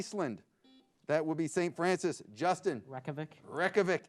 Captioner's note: buzzer beeps